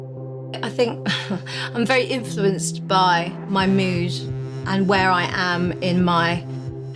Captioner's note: laughs